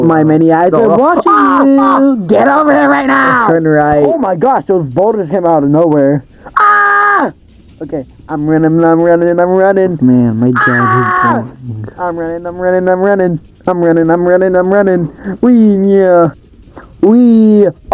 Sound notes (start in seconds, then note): 15.4 bored noises